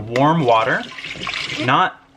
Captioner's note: pouring